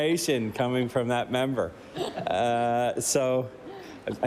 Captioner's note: laughter